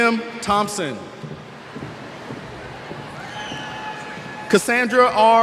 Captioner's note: cheers